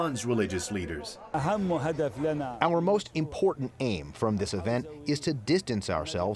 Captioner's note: through translator